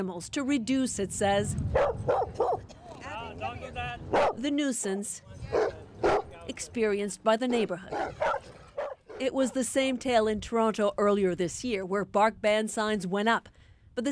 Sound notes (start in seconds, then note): 5.9 barking